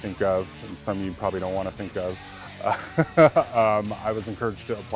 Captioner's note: laughs